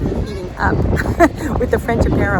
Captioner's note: chuckles